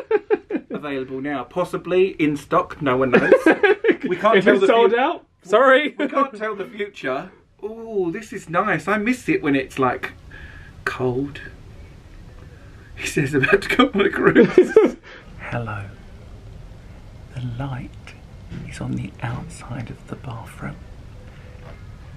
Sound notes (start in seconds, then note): 3.0 laughs